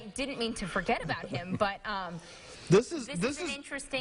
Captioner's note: laughing